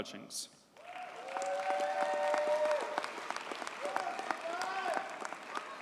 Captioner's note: audience cheers and applauds